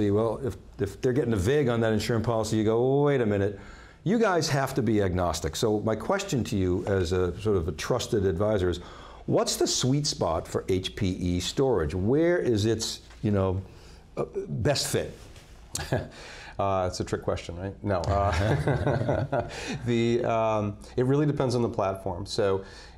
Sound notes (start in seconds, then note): 18.1 laughs